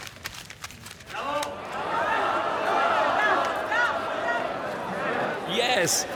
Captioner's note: crowd cheering in agreement